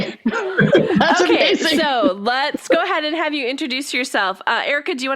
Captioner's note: laughs